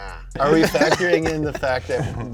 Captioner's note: laughing